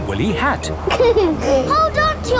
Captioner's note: giggles